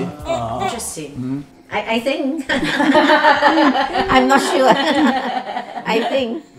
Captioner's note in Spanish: Risas